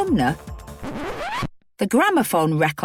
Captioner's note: record scratches